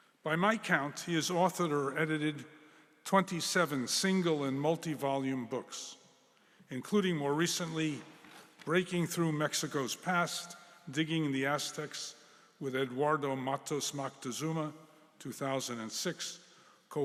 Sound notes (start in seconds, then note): none